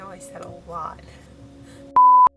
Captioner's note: laughs